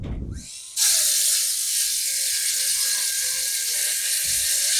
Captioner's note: electrical saw cutting wood